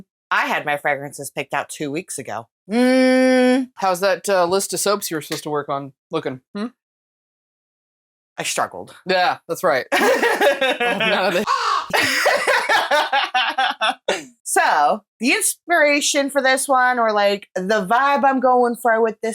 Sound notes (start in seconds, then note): 11.4 caw